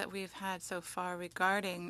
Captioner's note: speaking French